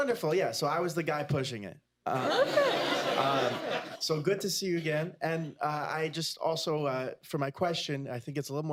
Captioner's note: laughter